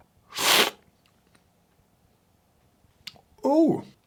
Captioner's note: slurping